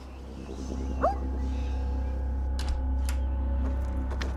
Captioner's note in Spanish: Ladridos